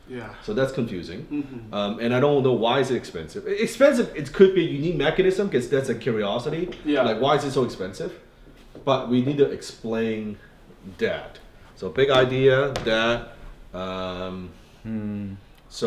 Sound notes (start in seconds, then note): 1.3 murmuring in agreement